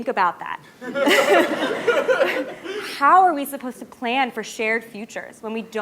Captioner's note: laugh